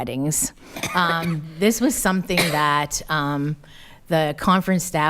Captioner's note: coughing